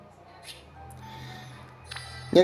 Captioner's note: holding breath